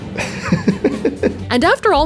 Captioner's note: laughing